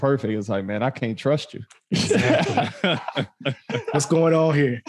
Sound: all laughing

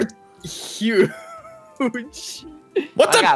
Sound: laughing

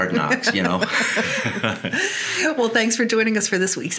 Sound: both laughing

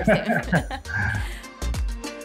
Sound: both laughing; upbeat music

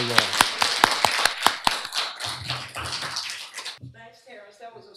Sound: applause

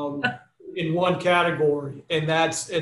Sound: chuckles

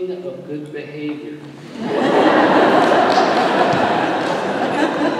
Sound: laughter

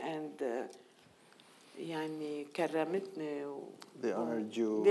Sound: speaking in foreign language

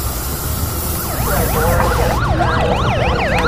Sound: sirens blaring

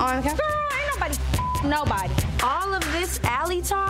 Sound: beep

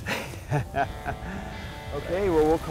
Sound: laughter

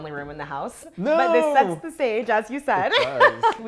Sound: laughs

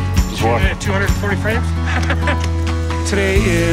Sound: laughing

